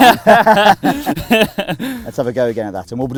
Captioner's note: laughter